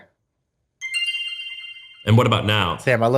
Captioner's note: chiming